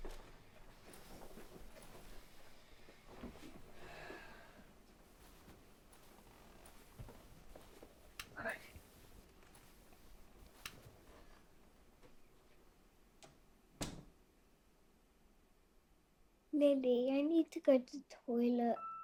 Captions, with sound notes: (Jim sighing) Night. (door clicking) - Lily, I need to go to toilet.